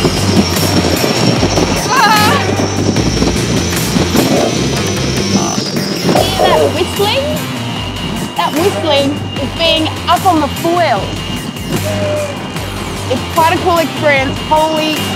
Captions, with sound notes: Whoa! (FOILS WHISTLE) You can hear that whistling. That whistling is being up on the foils. It's quite a cool experience. Holy...